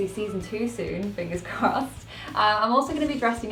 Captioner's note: laughs